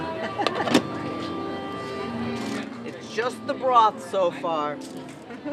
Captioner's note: lid closing